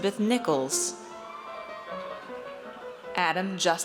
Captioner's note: audience cheers